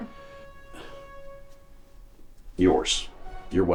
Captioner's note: Dave huffs